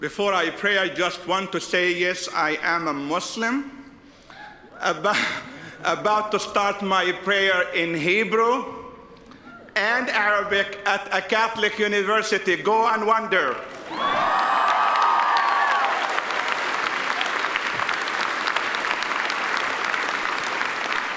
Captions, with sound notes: - Before I pray, I just want to say, yes, I am a Muslim, (chuckles) about to start my prayer in Hebrew and Arabic at a Catholic university, go and wonder. (audience cheers and applauds)